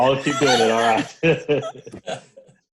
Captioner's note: laughs